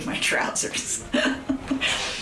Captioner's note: laughs